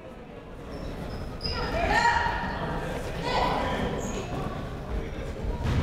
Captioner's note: people shouting in the crowd